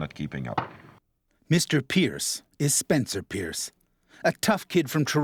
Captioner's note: voiceover